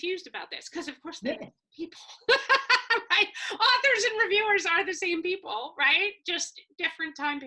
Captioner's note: laugh